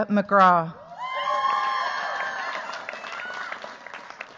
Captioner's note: cheers, applause